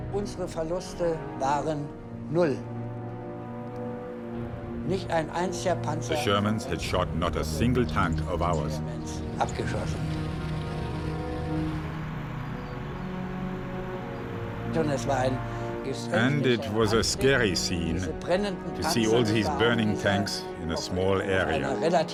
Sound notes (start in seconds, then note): 0.3 speaking in foreign language; 12.2 tank engine roaring